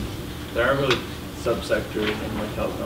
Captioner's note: voiceover